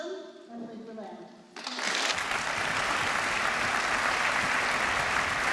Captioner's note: applause